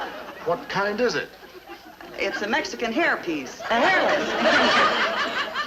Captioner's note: people cheering